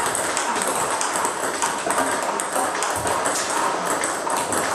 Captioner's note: ball ping pong hitting continues